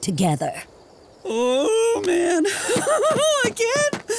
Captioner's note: laughing